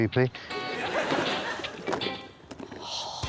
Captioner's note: laughter